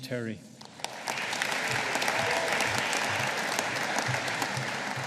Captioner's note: audience applauding